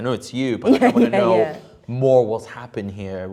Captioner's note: laughs